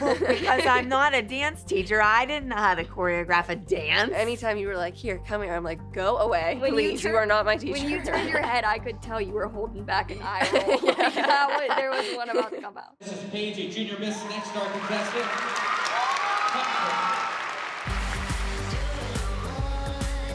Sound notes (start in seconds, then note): 13.8 cheering; 17.8 upbeat dance music playing